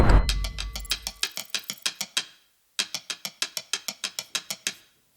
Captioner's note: bell rings; timer clicks